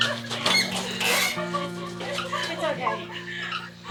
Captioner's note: crying